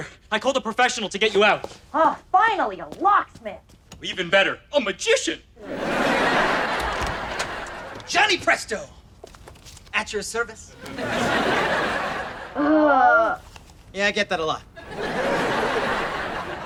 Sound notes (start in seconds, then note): 2.0 voiceover; 5.6 audience laughter; 10.7 audience laughter; 12.4 groans; 14.7 audience laughter